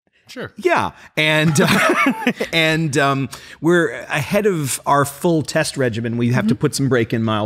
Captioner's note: laugh